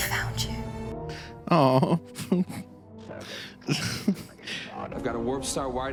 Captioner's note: emotional laughing